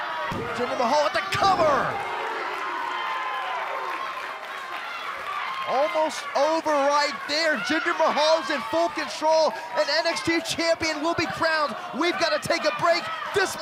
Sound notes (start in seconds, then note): 7.0 crowd cheering